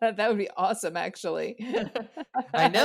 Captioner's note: laughs